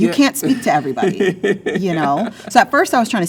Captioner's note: laughs